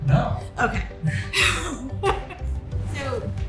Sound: laughs

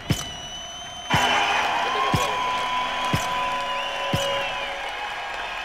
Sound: crowd cheers and applauds continues

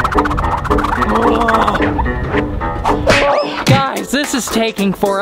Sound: grunts

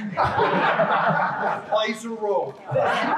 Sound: laughing

